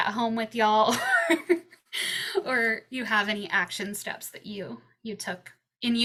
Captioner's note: chuckles